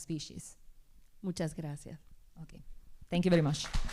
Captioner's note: speaking spanish